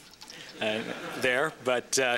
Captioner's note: laughter